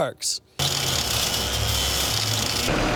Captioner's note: whirring sounds